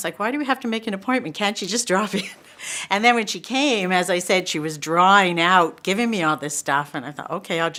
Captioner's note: laughs